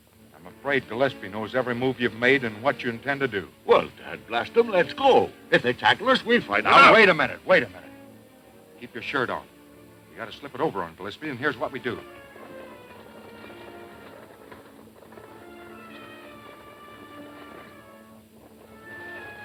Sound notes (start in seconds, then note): 13.5 galloping hooves; 13.5 gentle nostalgic music